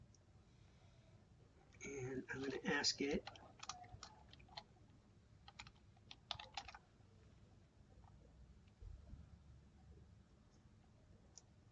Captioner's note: typing